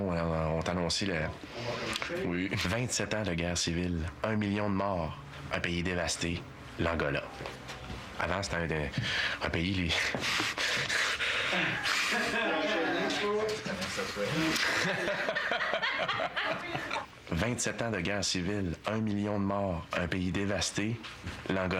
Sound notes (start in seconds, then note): 11.5 rires; 13.3 fou rire